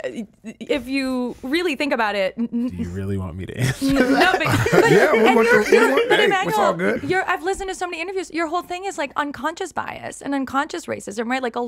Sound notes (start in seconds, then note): 3.6 everyone laughing